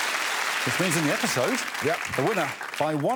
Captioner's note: applause